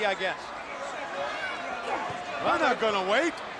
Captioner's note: crowd chatter